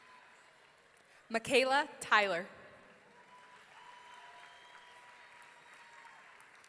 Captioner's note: audience cheering